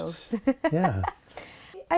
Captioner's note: laughter